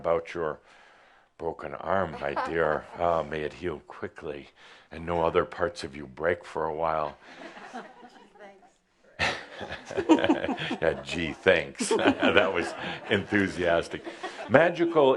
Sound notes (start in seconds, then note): 9.2 some chuckles; 9.2 chuckling; 9.2 more chuckles